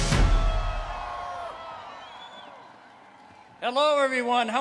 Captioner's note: crowd cheering, whistling